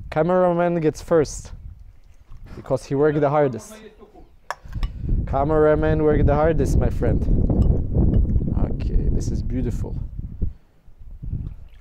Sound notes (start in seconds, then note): 7.3 wind blowing